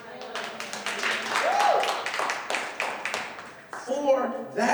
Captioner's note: clapping